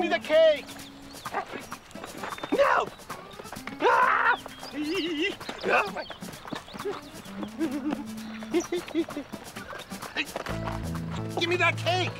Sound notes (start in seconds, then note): 1.9 yelling